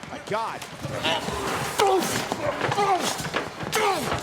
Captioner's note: both grunting